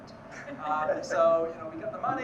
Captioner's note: panelists laughing